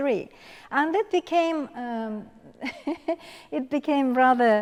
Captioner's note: laughs